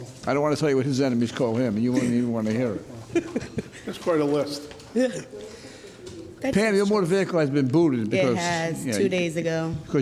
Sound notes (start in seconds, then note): 3.1 laughs